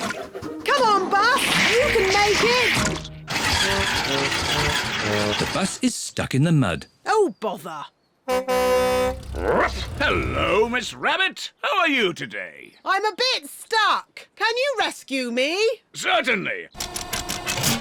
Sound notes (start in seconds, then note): 3.2 engine stalls; 8.2 honks horn